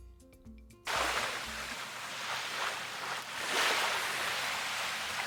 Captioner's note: water squashing